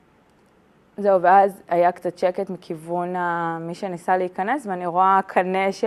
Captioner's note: speaking in Hebrew